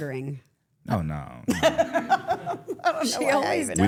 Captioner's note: laughs